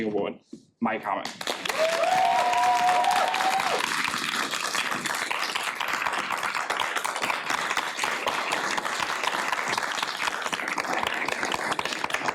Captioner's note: applause and cheering